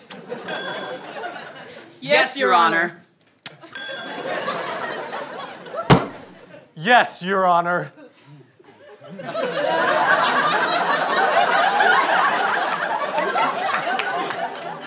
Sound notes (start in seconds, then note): 0.2 kiss; 3.4 kiss; 5.9 smack; 8.0 audience laughter